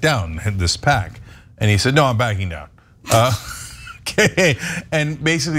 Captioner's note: laugh